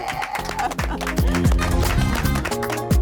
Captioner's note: applause